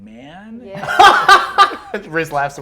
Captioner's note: laughs loudly